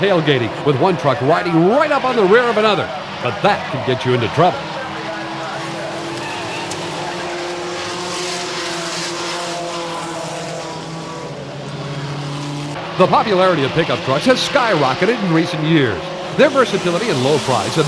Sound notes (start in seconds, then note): 6.6 engines whine; 6.6 wheels screech